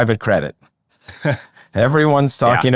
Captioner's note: laughing